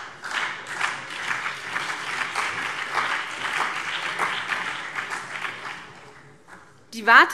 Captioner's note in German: Beifall BÜNDNIS 90/DIE GRÜNEN und CDU